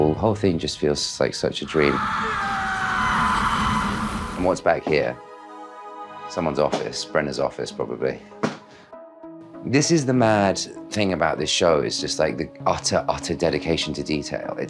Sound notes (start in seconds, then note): 1.6 screams